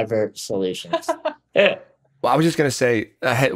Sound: chuckles; laughs

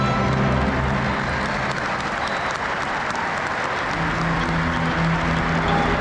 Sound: crowd cheering and clapping

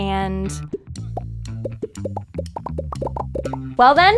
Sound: popping

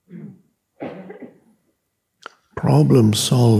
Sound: audience member coughing

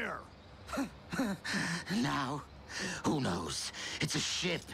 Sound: chuckles

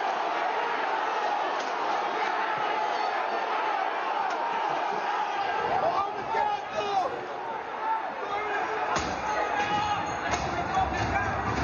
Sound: shouting

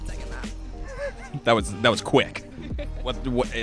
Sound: laughing

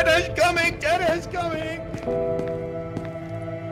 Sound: cries of a lost lover

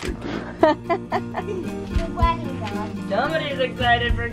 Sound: laughing

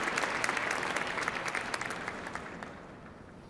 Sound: cheers and applause

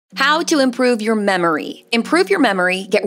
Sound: voiceover

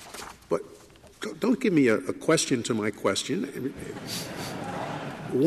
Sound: laughter

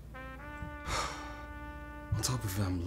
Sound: Nosa Sighs

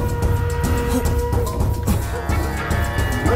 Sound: dog barks

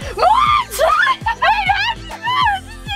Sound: girls scream

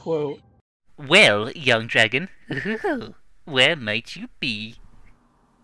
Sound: chuckles

